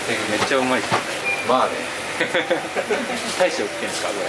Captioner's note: laughs